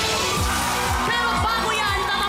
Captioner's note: audience cheering